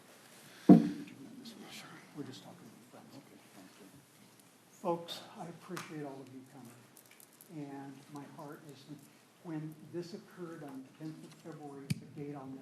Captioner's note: whispering